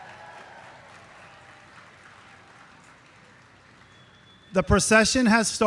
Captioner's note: audience cheering; audience clapping